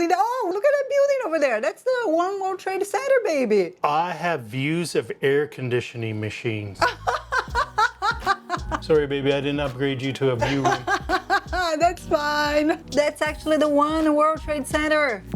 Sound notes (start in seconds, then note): 6.8 laughs; 10.4 laughs